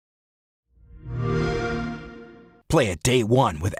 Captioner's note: xbox sound